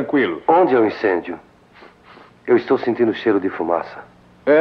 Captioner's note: sniffs